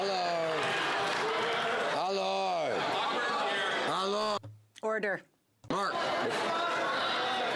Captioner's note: some Applause